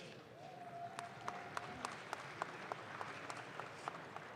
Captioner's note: audience claps